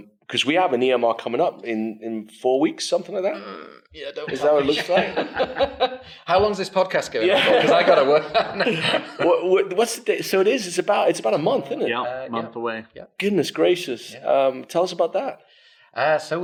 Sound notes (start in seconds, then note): 4.3 everyone laughs; 7.3 laughs